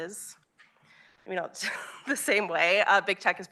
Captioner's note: chuckles